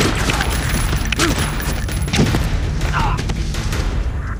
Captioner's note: men grunting